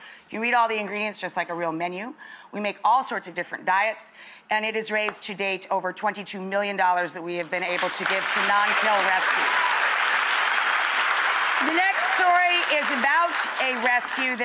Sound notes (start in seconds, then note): 9.4 audience applauding